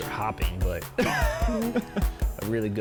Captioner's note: laughs